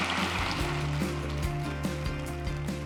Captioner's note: applause